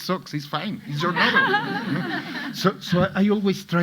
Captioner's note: audience laughing